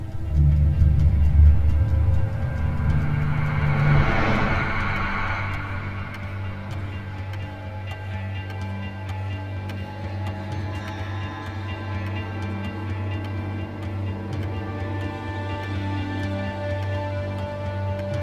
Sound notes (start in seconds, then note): 0.2 dramatic music; 8.2 clock ticking; 15.3 dramatic music